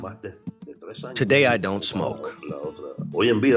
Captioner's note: through translator